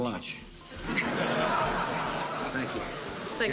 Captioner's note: audience laughing